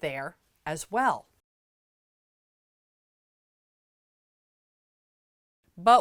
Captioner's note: no Sound Present